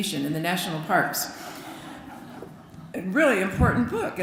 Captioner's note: laughter